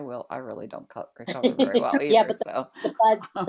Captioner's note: laughter